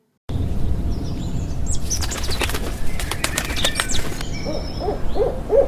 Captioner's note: birds tweeting and cawing